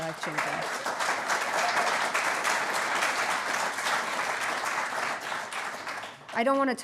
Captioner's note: applause